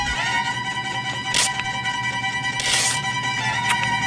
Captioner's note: ripping tape